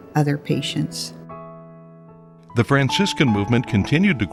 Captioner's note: voiceover